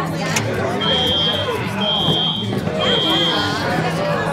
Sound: alarm blaring

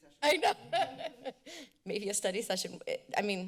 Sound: laugh

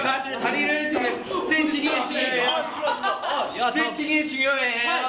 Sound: laugh

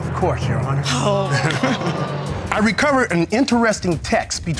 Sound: chuckles

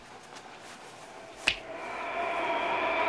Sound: snaps

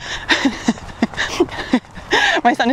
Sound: laughs

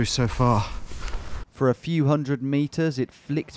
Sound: voiceover

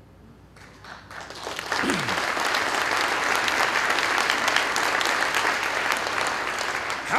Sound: applause

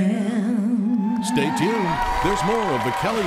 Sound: audience cheering

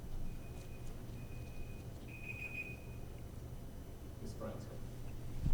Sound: timer beeping

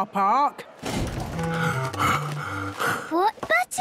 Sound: Daddy Pig panting

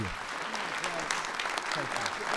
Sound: applause

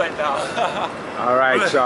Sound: laughs

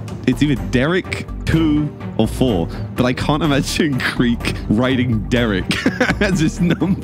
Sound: laughs

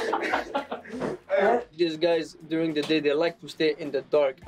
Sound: everyone laughing

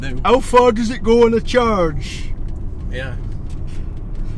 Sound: poorly attempts a Yorkshire ascent

